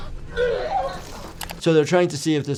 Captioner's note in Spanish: Irene vomitando